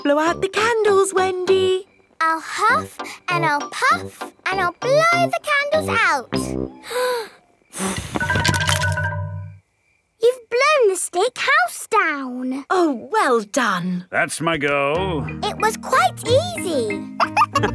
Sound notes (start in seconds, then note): 7.7 blowing